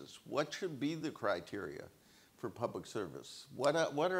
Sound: none

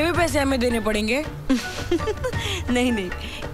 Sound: laughs

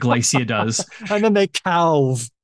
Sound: laughter

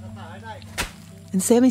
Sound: A thump as the plastic bag drops to the jungle floor

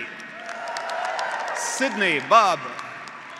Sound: graduates applauding; graduates cheering

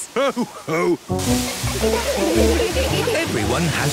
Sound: laughter

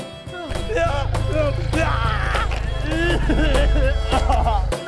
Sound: screaming

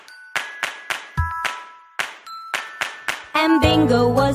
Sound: clap

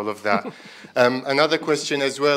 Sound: chuckles

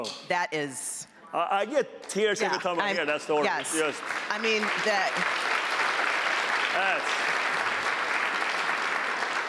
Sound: applause

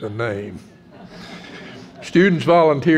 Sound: audience laughs

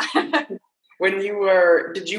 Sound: laughing loudly

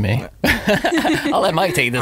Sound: laughing

